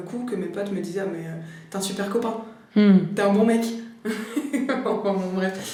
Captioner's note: laughter